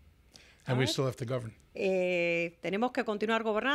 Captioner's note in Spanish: Hablando ingl\s